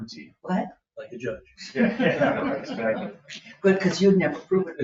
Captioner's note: laughs